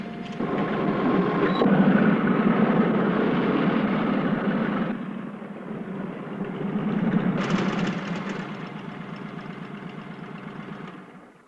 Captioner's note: motorcycle engines